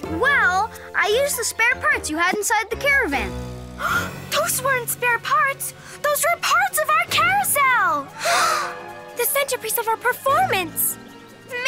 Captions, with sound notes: - Well, I used the spare parts you had inside the caravan. - (gasps) Those weren't spare parts, those were parts of our carousel! (everyone gasps) - The centerpiece of our performance.